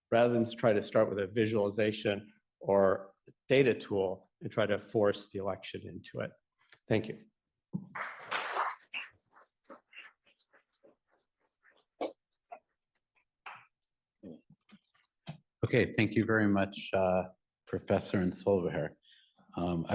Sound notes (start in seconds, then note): 8.0 audience applauding